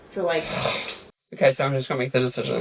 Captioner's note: sighs